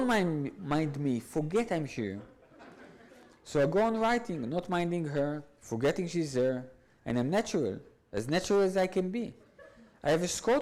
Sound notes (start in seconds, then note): 2.2 audience laughs